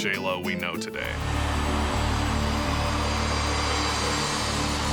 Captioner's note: audience cheering